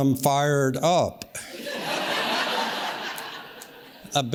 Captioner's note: audience laughs